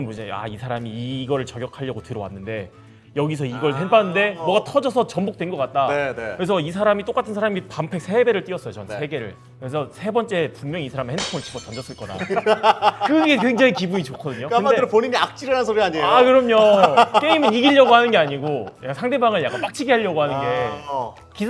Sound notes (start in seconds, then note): 15.9 laughing